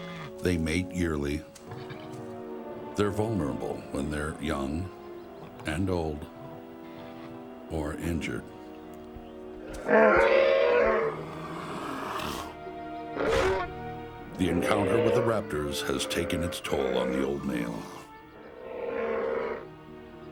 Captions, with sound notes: They mate yearly. They're vulnerable when they're young and old, or injured. [bellowing] The encounter with the raptors has taken its toll on the old male.